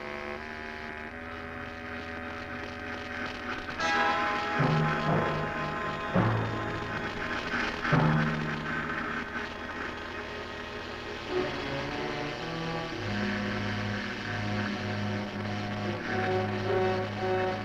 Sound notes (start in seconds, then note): 1.6 machine buzzing